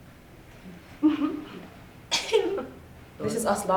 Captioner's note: laughing